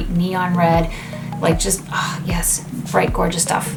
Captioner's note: sighs